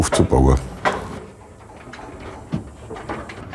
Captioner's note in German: Klopfen